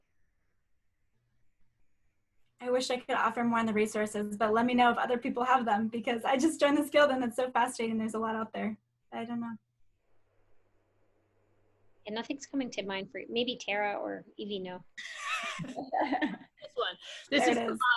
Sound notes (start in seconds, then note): 15.0 chuckling